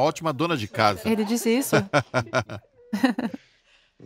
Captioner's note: Charles laughs loudly